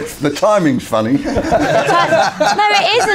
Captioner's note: laughing